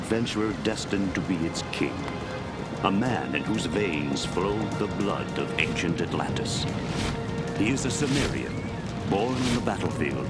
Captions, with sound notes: destined to be its' king. A man in whose veins flowed the blood of ancient Atlantis. (sword swooshing) He's a Sumarian, born in the battlefield